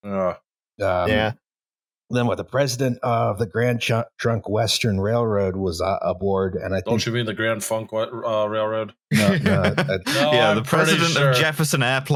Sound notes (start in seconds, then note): 9.1 laughter